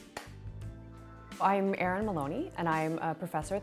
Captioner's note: clapping